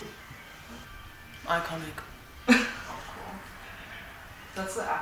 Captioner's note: laughs